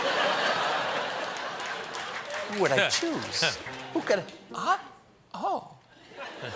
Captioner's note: laughter